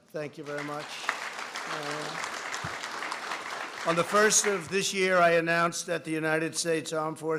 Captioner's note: applause